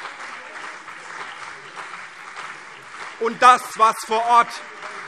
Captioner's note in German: Lebhafter Beifall CDU und BÜNDNIS 90/DIE GRÜNEN - Zurufe SPD